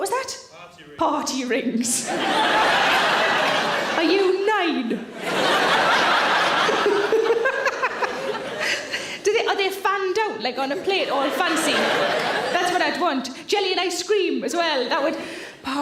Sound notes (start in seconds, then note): 2.0 audience laughs; 6.6 Sarah laughs